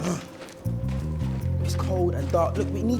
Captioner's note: Tom groans